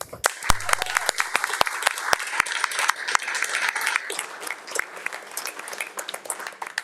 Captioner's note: attendees clapping; claps